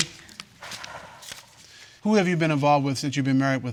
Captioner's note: exhales